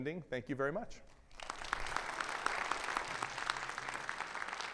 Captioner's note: audience applauding